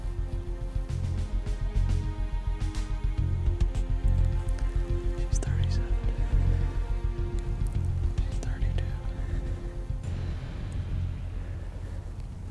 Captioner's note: whispering